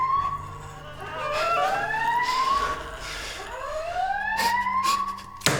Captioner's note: alarm ringing